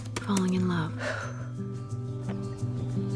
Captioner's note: exhales